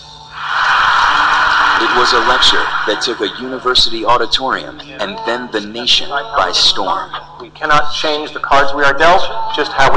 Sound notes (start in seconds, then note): 2.0 voiceover